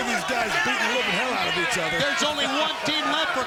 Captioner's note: laughs